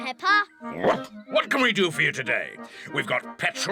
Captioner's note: barks